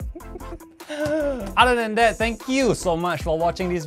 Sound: laughs in entitlement

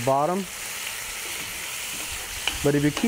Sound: meat sizzling

